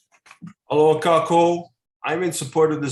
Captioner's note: speaks in a foreign language